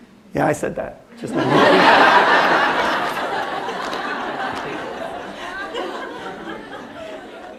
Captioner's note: laughter